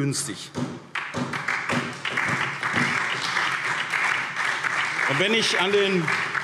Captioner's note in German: Beifall SPD